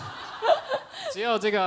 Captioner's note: laughter